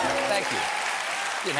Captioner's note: applause